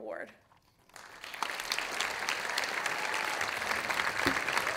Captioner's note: audience applauding